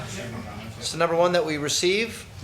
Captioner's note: man speaking off microphone